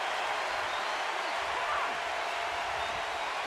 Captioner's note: cheering